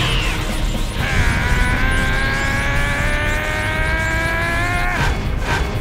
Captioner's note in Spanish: Gritos